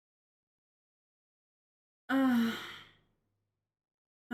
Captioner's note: sighs